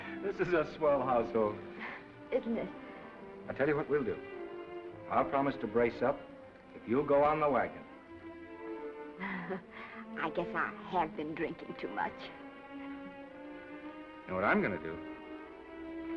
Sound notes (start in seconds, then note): 9.2 laughs